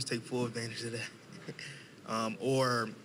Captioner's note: chuckling